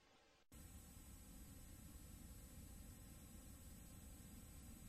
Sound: VHS static

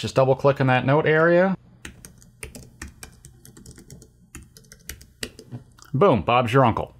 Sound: typing

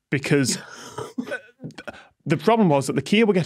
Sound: snickers

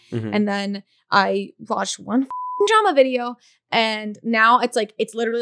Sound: beep

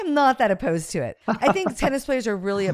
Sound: laughs

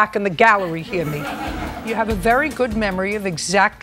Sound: laughter

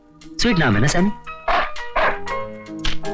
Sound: dog Barking

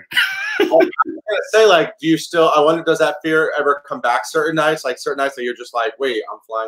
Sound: laughs

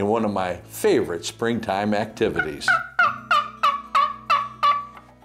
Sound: turkey call

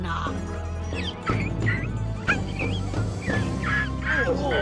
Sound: rats squeaking; rats grumbling

